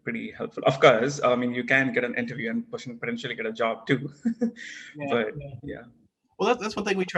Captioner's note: laugh